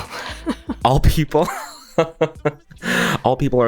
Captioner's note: laughs